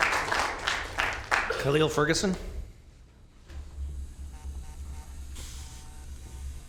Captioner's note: applause